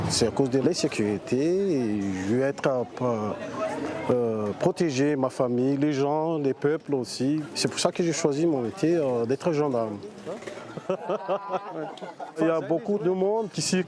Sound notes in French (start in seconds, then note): 10.5 rires